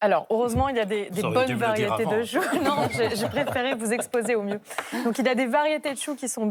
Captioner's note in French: rires